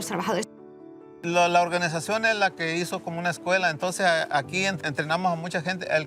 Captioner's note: speaking in Spanish